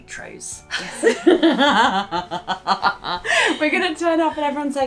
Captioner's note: laughter